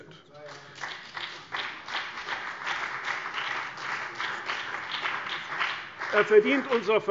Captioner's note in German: Beifall : Na ja!